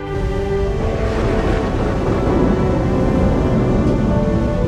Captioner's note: thunder rumbling